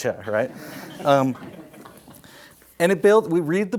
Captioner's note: audience laughs